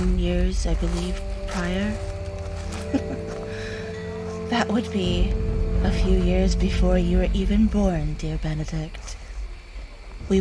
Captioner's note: chuckles